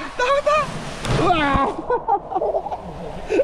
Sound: laughing; laughing

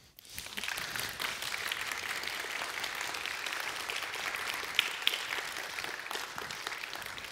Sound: applause

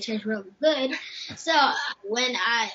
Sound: mom laughs

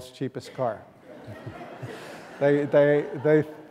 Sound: laughing

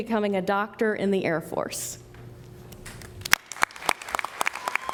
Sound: applause

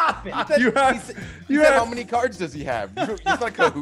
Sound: laugh

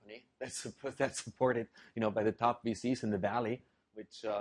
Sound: laugh

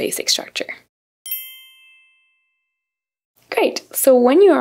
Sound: bell chimes

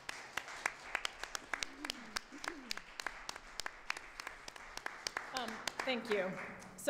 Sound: applause

